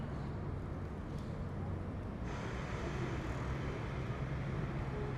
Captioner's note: busy city noise